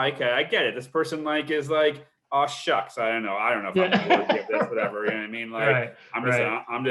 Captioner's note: laughs